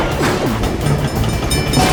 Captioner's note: bell ringing